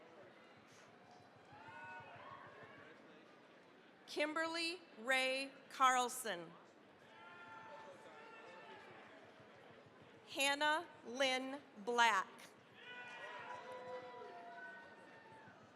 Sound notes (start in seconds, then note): 1.0 cheering, applause; 7.0 cheering, applause; 12.7 cheering, applause